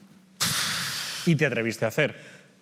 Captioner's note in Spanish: resopla